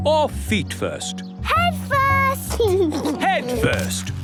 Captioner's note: giggles